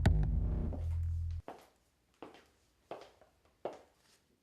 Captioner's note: footsteps